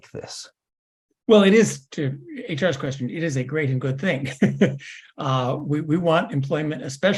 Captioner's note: laugh